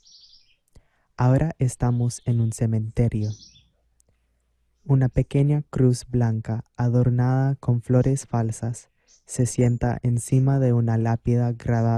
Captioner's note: VOICE-OVER in Spanish